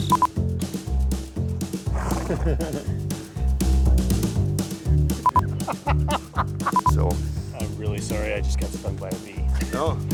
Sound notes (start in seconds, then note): 0.3 soft music beats; 1.6 horse snorting; 5.1 Dr. Pol laughing heartedly; 5.2 camera beeping